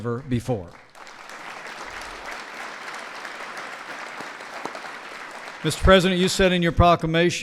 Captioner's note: applause